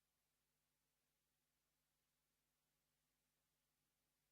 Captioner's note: none